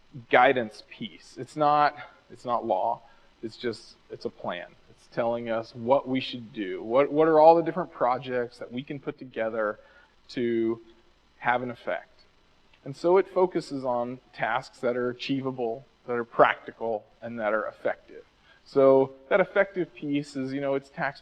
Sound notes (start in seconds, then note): none